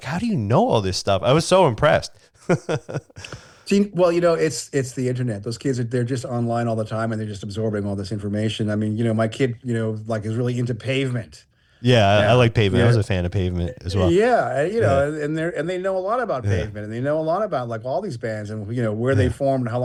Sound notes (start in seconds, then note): 2.4 laughs